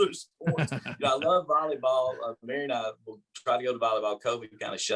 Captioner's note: laughter